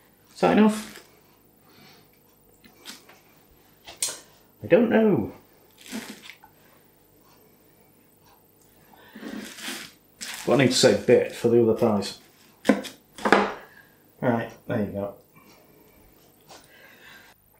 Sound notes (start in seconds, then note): 5.3 cheese being squidged